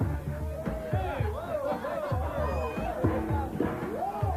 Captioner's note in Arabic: الناس يحتفلون